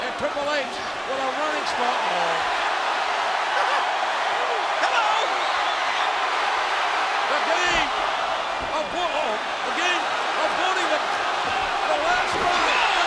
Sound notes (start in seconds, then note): 3.5 chuckles; 5.7 audience cheering